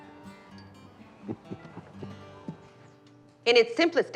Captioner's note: chuckling